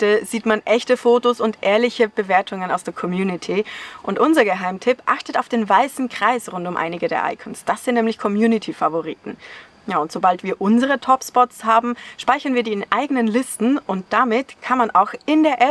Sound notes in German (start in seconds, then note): none